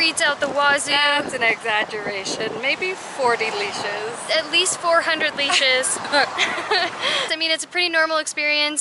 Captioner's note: laughter